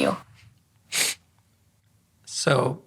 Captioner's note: sniffles